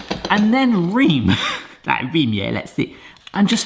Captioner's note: chuckles